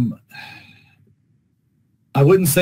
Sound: sighs

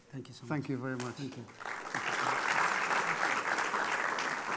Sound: applause

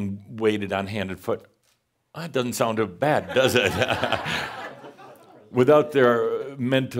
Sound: laughter

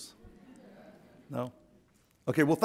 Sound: audience laughs

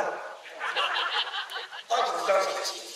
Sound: laughs

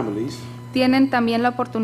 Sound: speaking foreign language

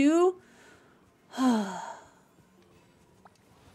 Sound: big Sigh

